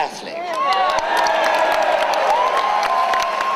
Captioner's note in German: Jubeln